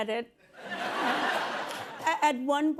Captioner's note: laughter